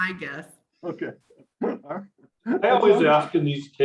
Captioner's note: laughs